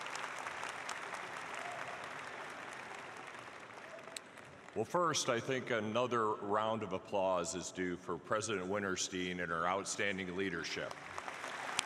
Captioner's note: applause